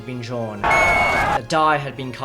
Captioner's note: whistle